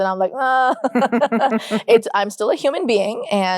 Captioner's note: chuckle